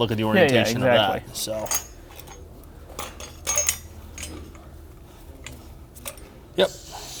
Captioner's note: metal clinking